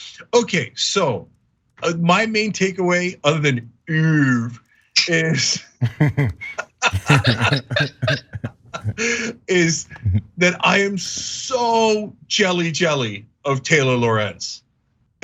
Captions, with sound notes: Okay, so my main takeaway other than ooove is [LAUGH] is that I am so jelly jelly of Taylor Lorenz.